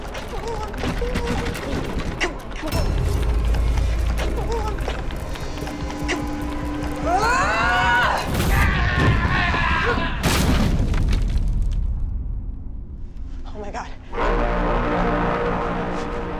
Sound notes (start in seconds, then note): 0.0 door rattling; 4.6 light dramatic music; 7.0 Rosemary screams; 8.3 thuds; 8.5 man screams; 13.9 dramatic music